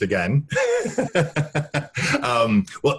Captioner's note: laughing